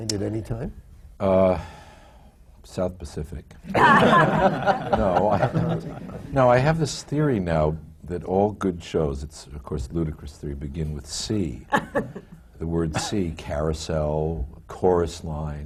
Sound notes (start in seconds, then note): 3.7 laughter